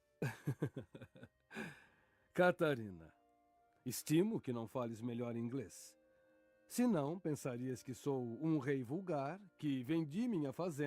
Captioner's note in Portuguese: risadas